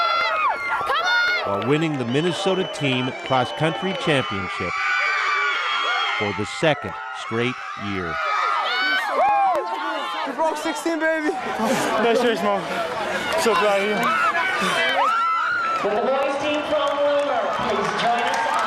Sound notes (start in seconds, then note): 4.0 cheers and applause